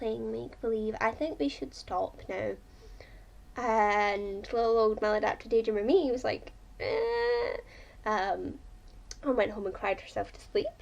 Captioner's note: imitates crying